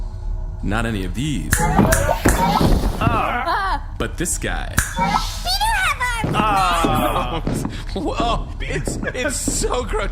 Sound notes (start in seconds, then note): 1.5 snaps fingers repeatedly, the crew cry out in horror; 5.2 snaps fingers